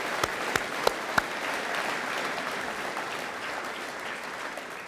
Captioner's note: audience applauding